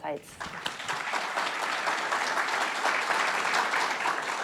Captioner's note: audience applauding